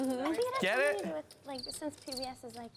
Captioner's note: crickets chirp